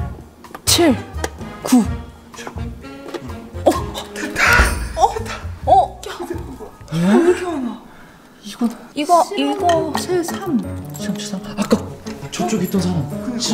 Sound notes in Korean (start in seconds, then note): 3.6 놀란 탄성; 5.6 짧은 탄성; 6.9 놀라는 탄성